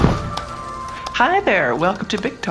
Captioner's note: transition noise